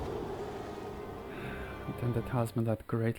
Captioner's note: sighs